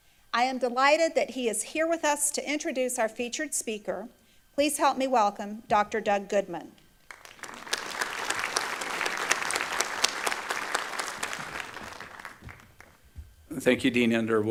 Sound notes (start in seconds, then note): 8.5 applause